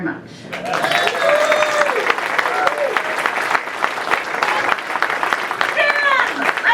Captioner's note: applause